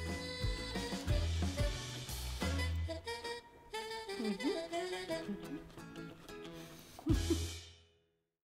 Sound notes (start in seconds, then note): 0.0 upbeat music; 6.8 chuckles